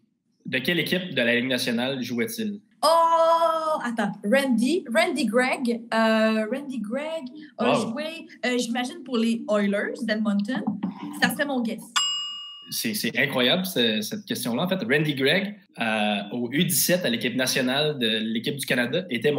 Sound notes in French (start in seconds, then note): 11.9 ting!